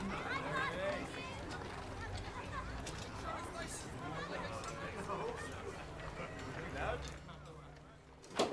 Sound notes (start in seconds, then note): 1.8 townsfolk bustling